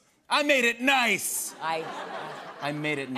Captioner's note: laughter